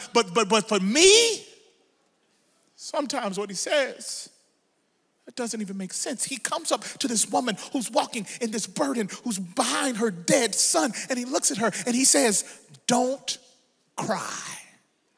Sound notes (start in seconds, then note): none